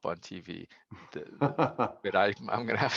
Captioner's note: chuckling